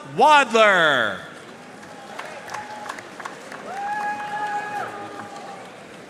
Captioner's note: audience cheering and applauding